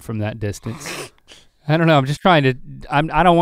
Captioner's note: Rhett laughing